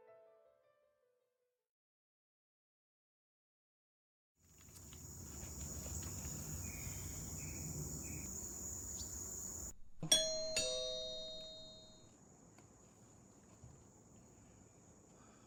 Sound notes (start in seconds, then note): 4.4 insects chirping; 10.0 doorbell rings